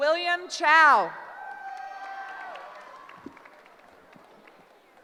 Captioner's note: cheering